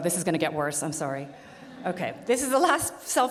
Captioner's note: audience laughs